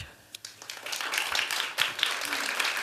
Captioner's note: applause